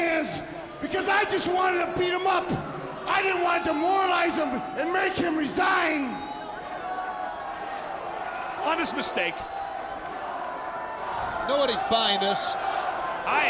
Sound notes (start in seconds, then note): 6.5 audience shouting